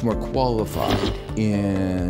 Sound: air whooshing

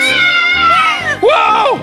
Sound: kids yelling

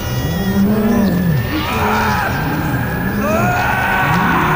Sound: screams

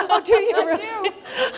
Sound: laughter

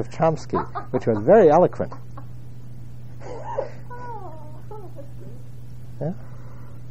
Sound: laugh

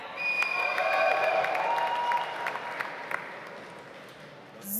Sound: audience applauds

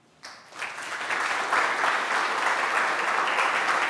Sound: applause

